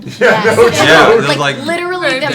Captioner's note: laughing